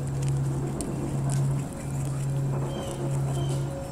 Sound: squirrel scratching

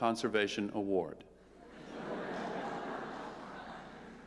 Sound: laughter

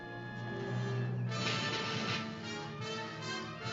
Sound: phaser firing

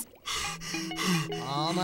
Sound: panting

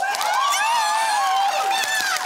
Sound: cheering

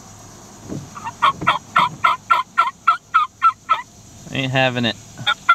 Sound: turkey call

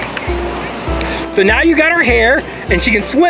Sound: voiceover

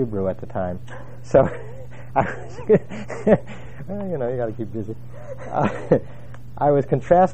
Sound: laugh

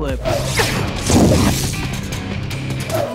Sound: explosion

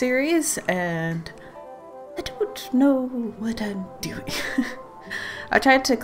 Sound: laughs

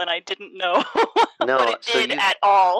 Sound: laughter

